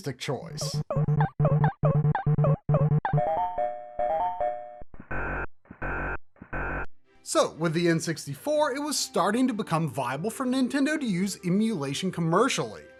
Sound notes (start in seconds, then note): 1.8 Donkey Kong Game Audio